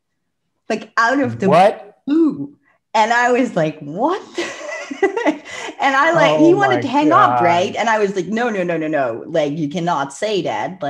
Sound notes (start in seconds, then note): 4.3 laughs